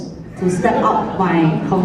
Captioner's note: laughter